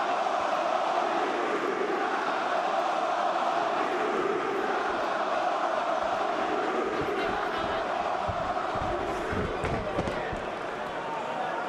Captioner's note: crowd cheering